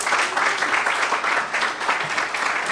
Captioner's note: applause